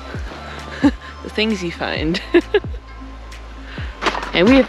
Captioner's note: laugh